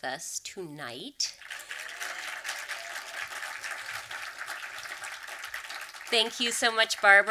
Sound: audience clapping

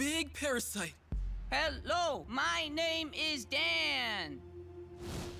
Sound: enunciating

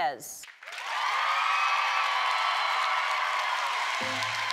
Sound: applause

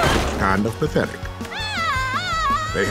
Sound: screaming

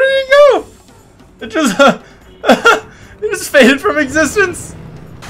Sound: laugh

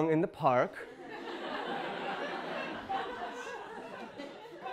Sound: audience laughing

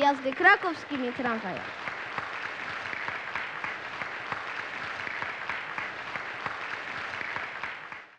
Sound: applause

